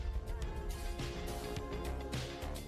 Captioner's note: none